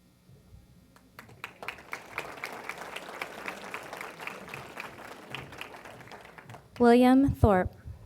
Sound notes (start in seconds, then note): 1.0 applause